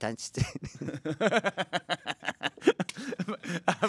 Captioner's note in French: rires